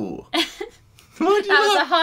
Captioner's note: laughs